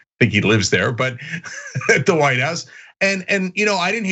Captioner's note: laugh